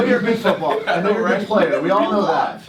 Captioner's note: laughs